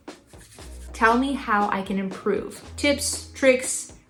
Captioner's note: kindly